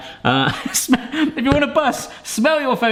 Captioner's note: laughs